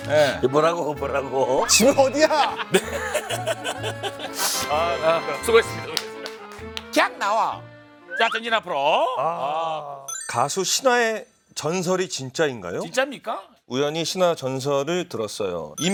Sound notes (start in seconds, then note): 2.1 dying from laughter